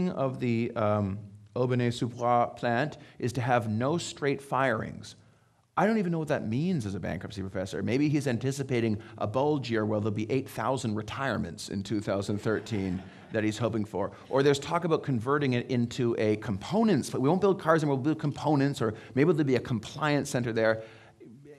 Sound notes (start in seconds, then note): 12.2 audience laughing